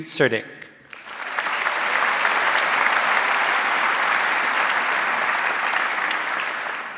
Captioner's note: audience cheering and applauding